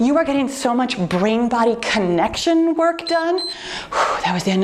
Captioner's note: timer beeps